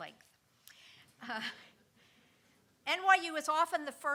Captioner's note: all chuckling